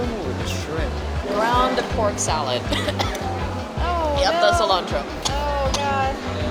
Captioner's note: cough cough